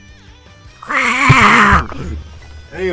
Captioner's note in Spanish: sonidos del juicio final